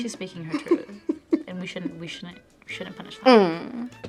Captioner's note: laughs